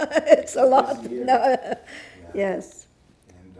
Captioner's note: laughing